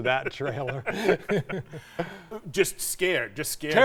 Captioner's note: both laughing